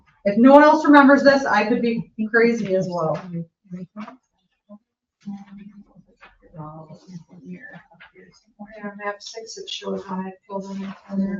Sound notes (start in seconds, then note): 6.2 members chattering